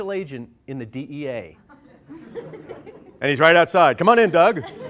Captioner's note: laughter